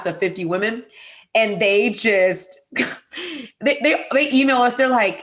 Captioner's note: laughing